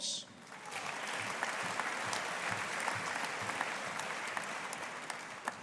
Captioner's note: audience applauding